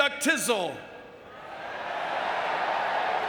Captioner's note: audience booing